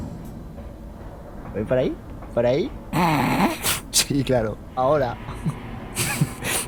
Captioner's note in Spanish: Risa ahogada